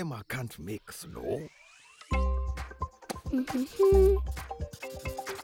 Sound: humming; giggling

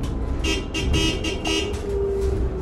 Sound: car horn

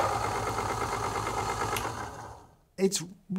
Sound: Niche Duo grinding

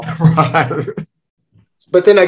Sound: laughs

